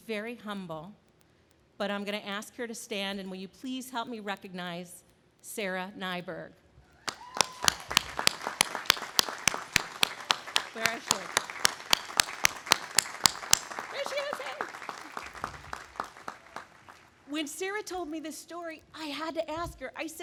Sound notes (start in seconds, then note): 7.4 audience applauding